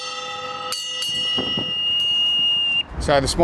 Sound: bell ringing; whistle

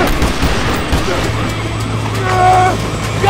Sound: sirens blaring

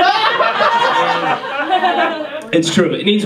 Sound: audience laughs

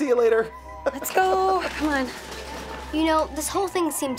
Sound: chuckling

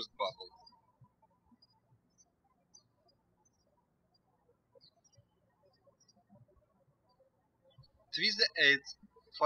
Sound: birds chirping

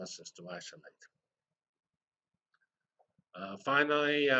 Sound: pause

